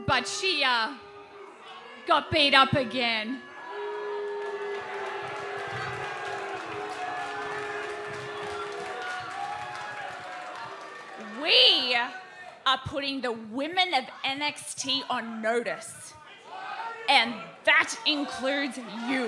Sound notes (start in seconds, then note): 0.0 crowd chatter; 4.9 crowd chatter